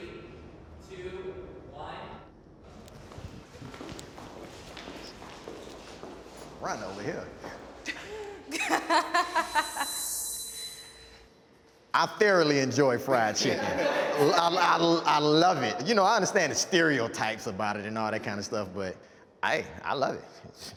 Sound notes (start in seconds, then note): 2.7 feet shuffling; 7.8 panelists laughing; 13.0 panelists laughing